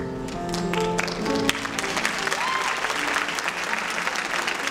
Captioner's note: applause